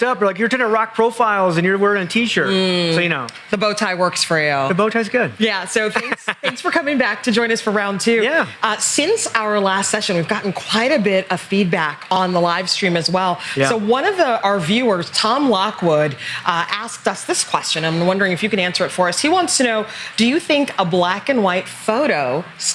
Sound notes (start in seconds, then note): 5.8 laughs